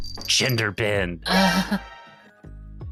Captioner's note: laughs